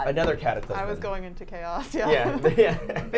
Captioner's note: laughs